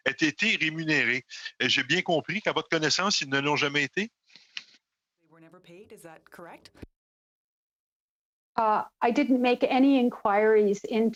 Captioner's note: speaking French